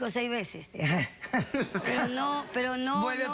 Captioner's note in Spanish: risas